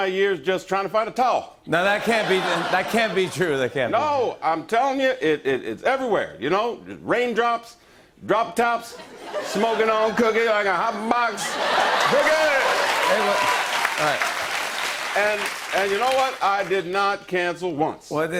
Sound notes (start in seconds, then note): 1.7 laughter; 9.0 laughter and applause